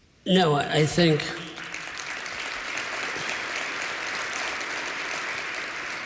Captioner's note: applause